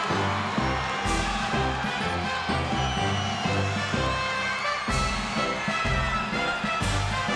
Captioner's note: crowd cheers